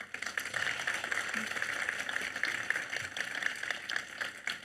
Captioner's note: audience applauds